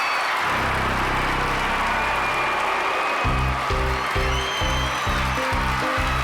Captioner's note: cheering, applause